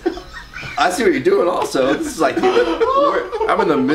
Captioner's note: laughs loudly